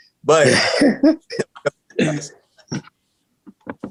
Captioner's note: laughing